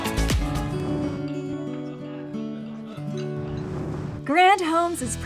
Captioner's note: whoosh